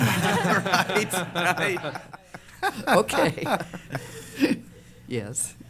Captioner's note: laughter